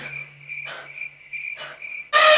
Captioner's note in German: Waldgeräusche; Elefant trompetet